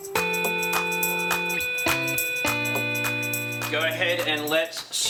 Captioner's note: signal buzzing